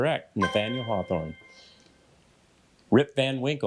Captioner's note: bell dings